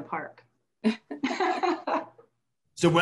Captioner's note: laughing